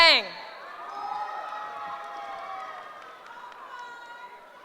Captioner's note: cheering